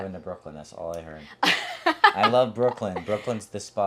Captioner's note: laughing